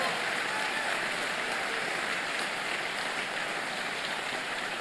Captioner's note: applause